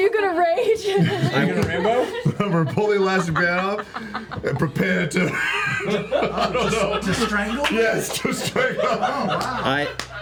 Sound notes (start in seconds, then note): 6.9 laughs